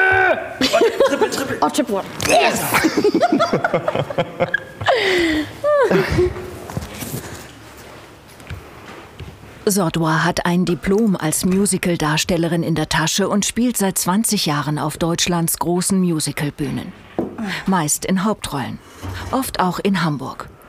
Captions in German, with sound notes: Arghhh! Triple, Triple! (alle lachen) Zodwa hat ein Diplom als Musicaldarstellerin, spielt seit 20 Jahren auf Deutschlands großen Musicalbühnen. Meist in Hauptrollen - oft auch in Hamburg.